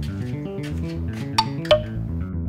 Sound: doorbell clunk sound

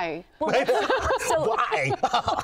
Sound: laughing

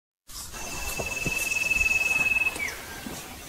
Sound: footsteps

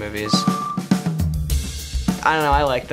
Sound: beeps

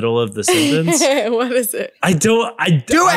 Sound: laughs

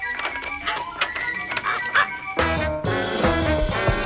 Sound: crow squawks

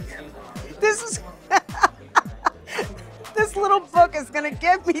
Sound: laughing

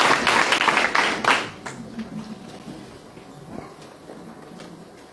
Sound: applause

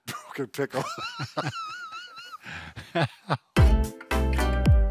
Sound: chuckle; slow music

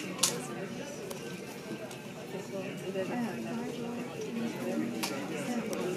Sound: people talking, airport noises

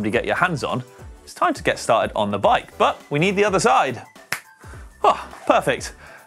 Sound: snaps fingers

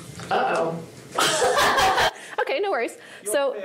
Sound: laughs

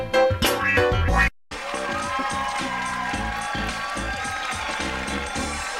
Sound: funky music plays; audience cheering as music plays

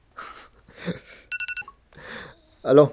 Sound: laughing

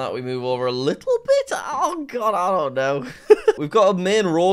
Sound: laughs

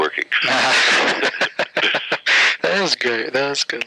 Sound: laughter

